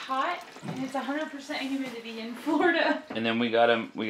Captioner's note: laughs